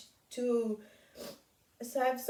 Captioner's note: sniffs